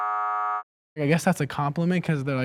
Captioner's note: buzzer sounds